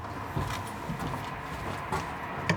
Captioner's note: quiet street noise